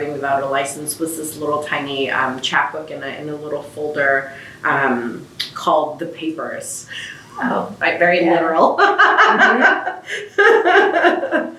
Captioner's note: laughs